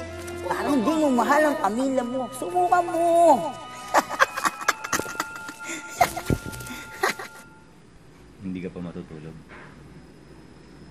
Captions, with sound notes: It's like you don't love your family. Give it a try. [laughs] Aren't you going to bed?